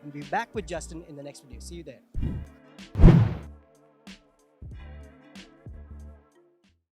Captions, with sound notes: We'll be back with Justin in the next video. See you there. (whoosh) (poof)